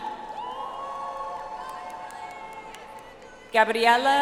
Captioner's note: audience applauds